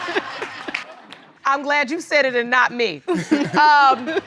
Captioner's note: all laughing